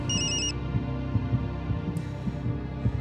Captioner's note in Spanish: Suena el teléfono